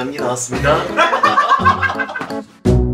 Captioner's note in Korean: 웃음소리